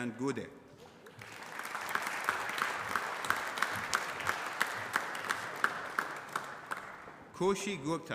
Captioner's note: applause